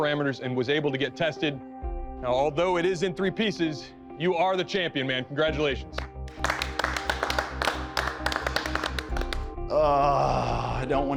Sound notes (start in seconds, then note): 5.9 applause; 6.0 sighs